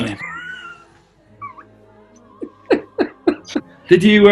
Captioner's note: giggling